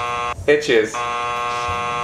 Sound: buzzer buzzing

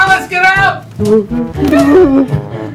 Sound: moaning

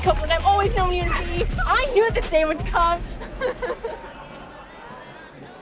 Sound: chuckles

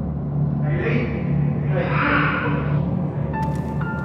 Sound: ghostly ambience; voice echoes

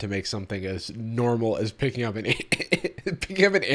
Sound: chuckles

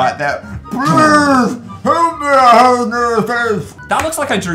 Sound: weird deep voice

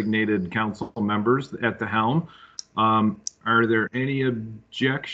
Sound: laughing

